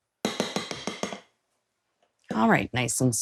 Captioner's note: whisk banging